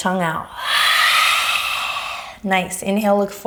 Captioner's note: exhaling